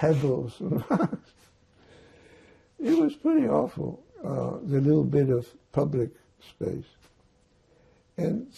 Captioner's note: laughing